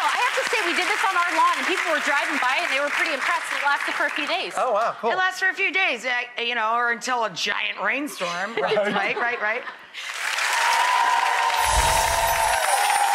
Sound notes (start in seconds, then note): 9.1 laughs; 10.0 audience applauding